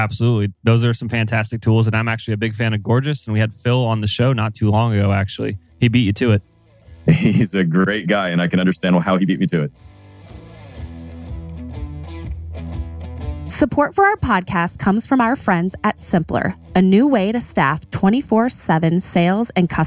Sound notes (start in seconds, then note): 7.0 laughs